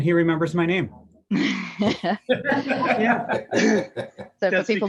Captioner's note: laughter